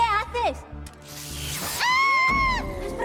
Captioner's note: zaps; shrieks